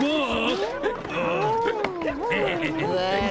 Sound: hiccups continuing

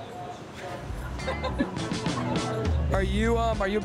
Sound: onlookers laughing

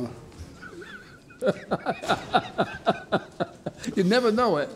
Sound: laughs

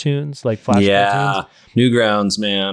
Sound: voice muffled

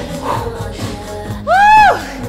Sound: breathes heavily

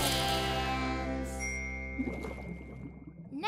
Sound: dings, gurgles

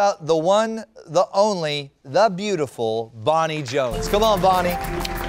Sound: applause

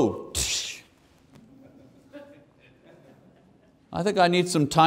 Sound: laughing

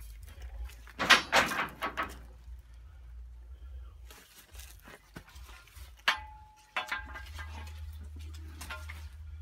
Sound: clanging of metal

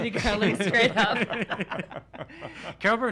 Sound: all laughing

